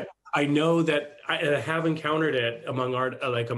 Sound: chuckles

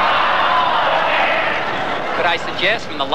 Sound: yelling and shouting

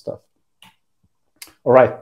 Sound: mouse clicks

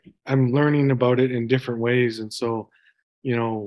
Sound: none

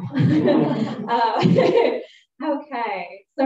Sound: laughter

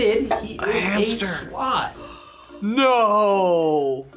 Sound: gasps

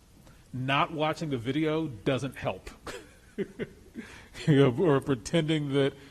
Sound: laughs

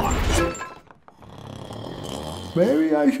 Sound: snores

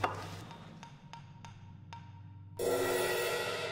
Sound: tapping Sound

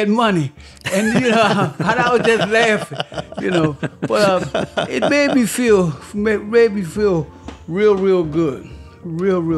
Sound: laughter

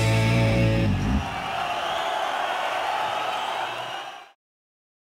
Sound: crowd cheering

